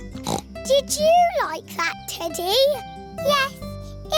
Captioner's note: snorts